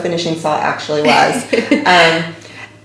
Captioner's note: laughing